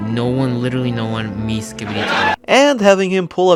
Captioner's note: laugh track